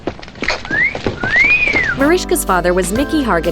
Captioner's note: whistles